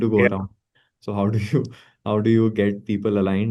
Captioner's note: laughs